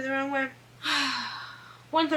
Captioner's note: sighs